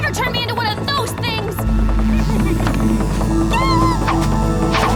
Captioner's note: laughing